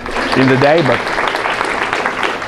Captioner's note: applause